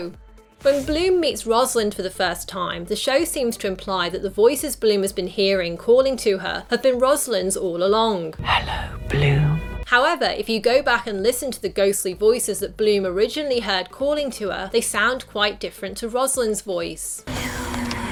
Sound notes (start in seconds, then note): 8.2 whispering